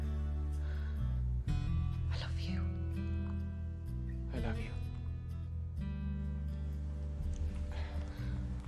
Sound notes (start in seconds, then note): 2.1 berbisik